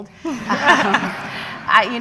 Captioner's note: laughter